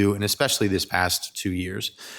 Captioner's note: none